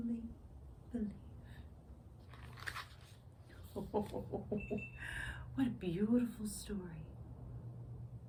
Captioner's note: ho-ho-ho chuckles